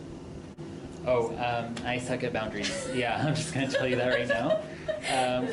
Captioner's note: laughter